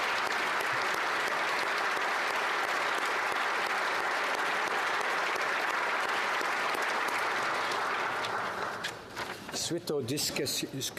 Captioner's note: applause